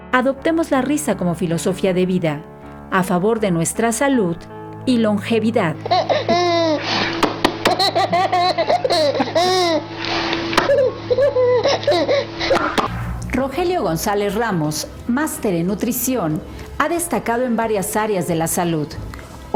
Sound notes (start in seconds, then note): 5.8 baby laugh